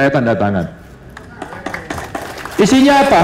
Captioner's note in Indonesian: tepuk tangan